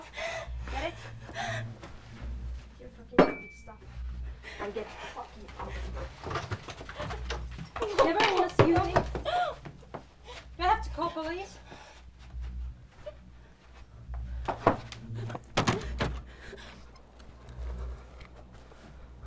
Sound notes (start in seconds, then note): 1.8 crying; 7.2 murmuring; 12.6 crying